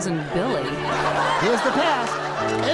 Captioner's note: audience laughs